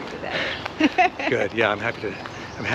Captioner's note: laughs